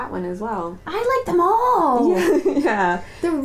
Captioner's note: laughing